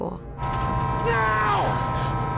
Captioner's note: train horn blaring